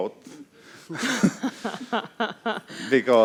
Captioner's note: both laugh